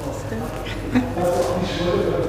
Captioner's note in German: lacht